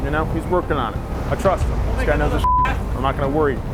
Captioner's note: beep